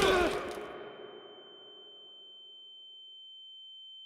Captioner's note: whistle blows, players grunt, thuds; ringing